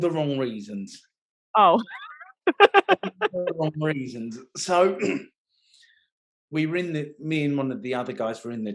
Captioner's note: laughing